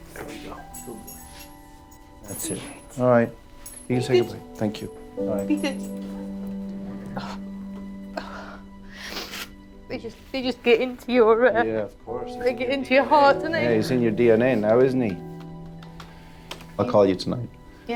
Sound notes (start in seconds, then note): 2.6 speaks faintly; 8.2 sniffles